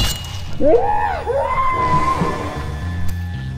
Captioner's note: screaming continues; screams; tense music playing